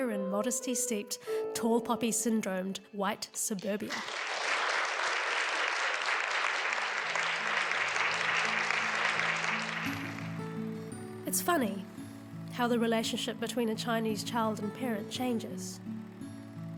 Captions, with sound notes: in modesty-steeped, tall poppy syndromed white suburbia. (audience applauding) (soft music) It's funny, how the relationship between a Chinese child and parent changes.